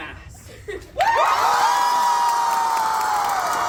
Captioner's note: crowd erupts in cheers and screams